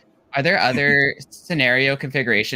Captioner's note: laughs